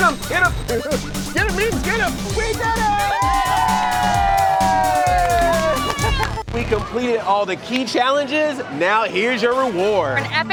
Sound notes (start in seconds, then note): 2.4 group cheers